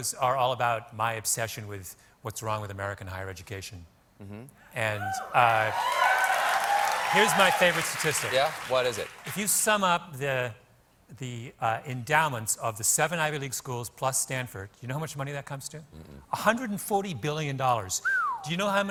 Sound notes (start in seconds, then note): 5.0 cheers and applause